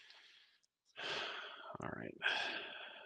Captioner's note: sighs